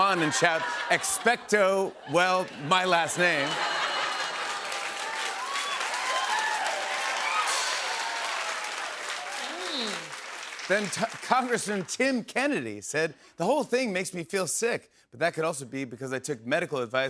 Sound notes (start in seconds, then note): 3.2 laughter; 6.1 cheers and applause